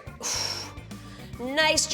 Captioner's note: exhales